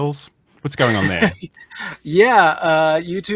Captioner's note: laughs